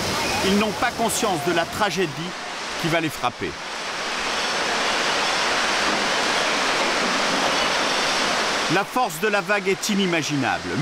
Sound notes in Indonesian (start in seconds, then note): 4.6 suara gemuruh air